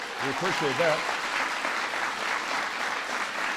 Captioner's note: applause